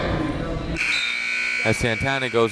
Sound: timer buzzes

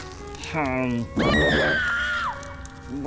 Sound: female screaming

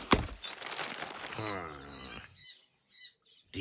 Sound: tape ripping, paper crinkling; birds squawking

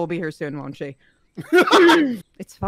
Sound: laughter

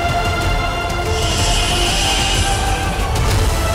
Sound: hissing

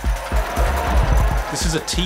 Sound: crowd cheering

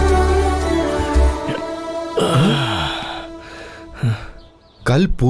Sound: birds chirping; sighing

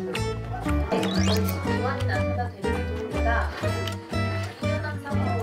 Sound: TV and eating sounds only

